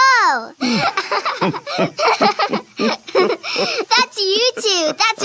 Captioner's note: laughing